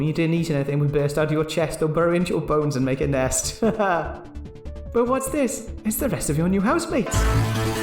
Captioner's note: laughs